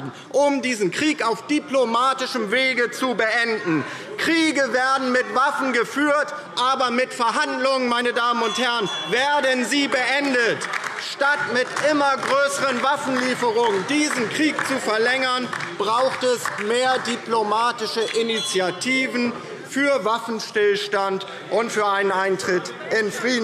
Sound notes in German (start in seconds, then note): 3.8 Anhaltende Zurufe - Glockenzeichen; 10.8 Beifall DIE LINKE